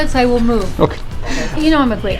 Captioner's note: laughs